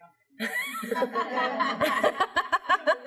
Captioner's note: laughter